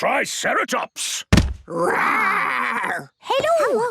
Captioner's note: thudding